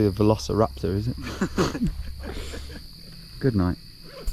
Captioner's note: chuckling